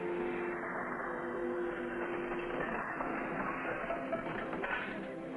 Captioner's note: objects rattling in distance